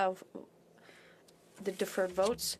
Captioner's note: speaking French